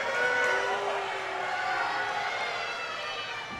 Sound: crowd booing

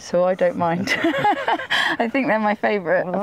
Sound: laughs

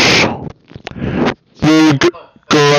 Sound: inhales a fly

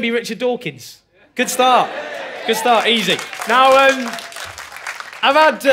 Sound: cheering

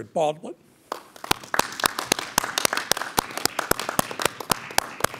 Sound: crowd clapping

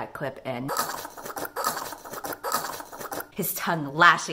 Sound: choking sound

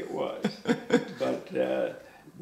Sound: laughs

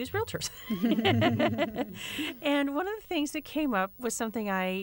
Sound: laughter

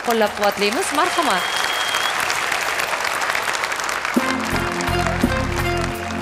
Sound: cheer

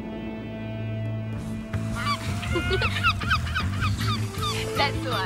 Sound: seagulls squawking; girls laughing

